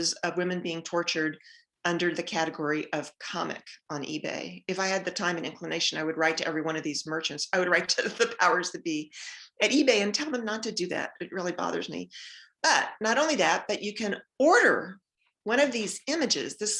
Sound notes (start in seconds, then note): 8.0 giggles